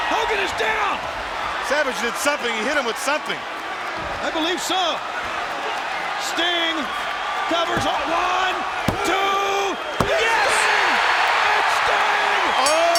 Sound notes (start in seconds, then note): 10.7 audience cheers; 12.6 bell rings